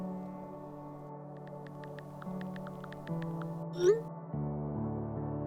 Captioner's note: message sent sound; keypad sound